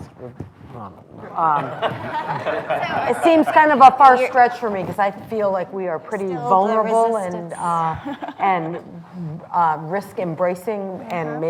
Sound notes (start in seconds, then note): 1.5 laughter